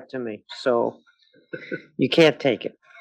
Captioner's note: laugh